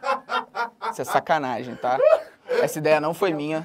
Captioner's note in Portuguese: risadas; risadas